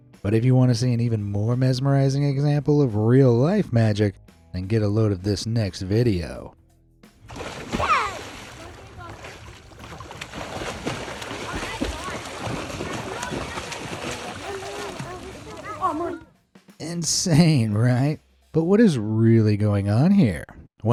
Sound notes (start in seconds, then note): 7.5 water splashes; 9.2 bystanders chattering; 9.2 water splashing